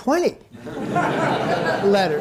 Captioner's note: audience laughing